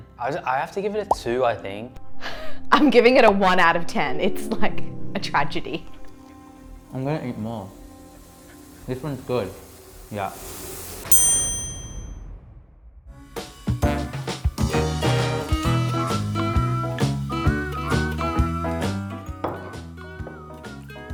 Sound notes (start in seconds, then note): 11.1 chimes; 13.7 upbeat music